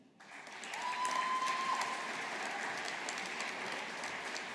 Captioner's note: audience applauding